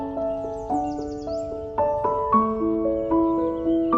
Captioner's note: birds chirping